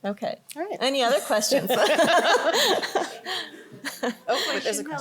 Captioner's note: laughter